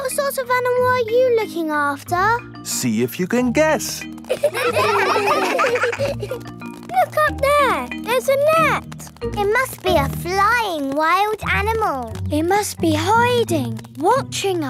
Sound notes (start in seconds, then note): 4.2 children laughing